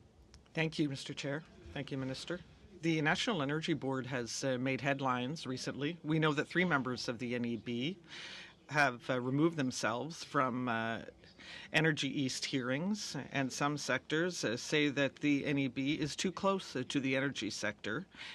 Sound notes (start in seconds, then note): 4.5 speaking in French